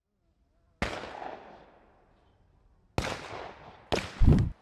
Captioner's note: gun shots